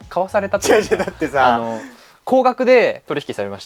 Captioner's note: laughs